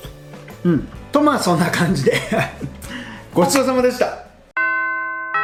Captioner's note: haha